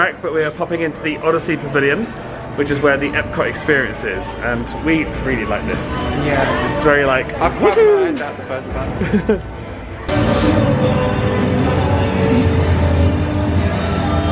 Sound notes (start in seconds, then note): 7.5 jubilating; 8.9 laughing; 10.4 gentle music